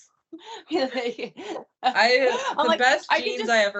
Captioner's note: both laughing